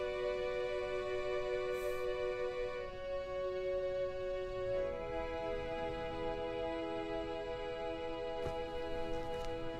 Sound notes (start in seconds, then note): 1.8 Phoebe sniffing